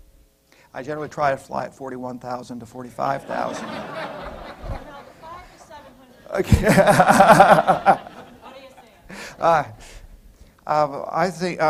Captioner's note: laughter